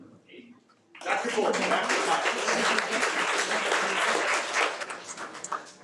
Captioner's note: audience applauding